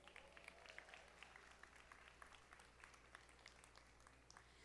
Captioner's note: audience applauding